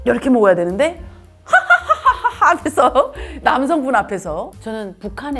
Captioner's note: south Korean women drinking while laughing